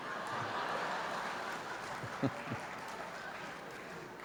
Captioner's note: laughter